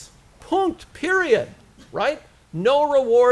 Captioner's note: foreign language